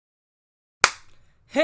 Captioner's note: claps